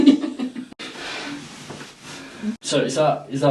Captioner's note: people laughing; person breathing